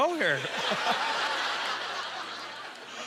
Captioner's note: audience laughter